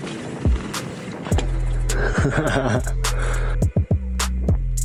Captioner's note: laughing